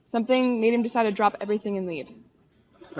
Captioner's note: none